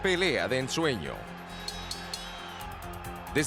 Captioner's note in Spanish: campana sonando